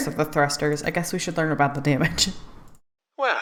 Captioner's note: laughs